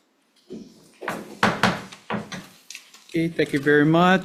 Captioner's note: gavel bangs